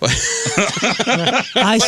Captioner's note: laughter